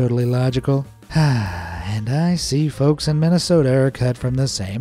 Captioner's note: sigh